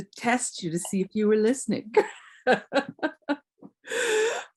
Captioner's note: laughs